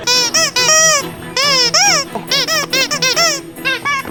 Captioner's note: toys squeaking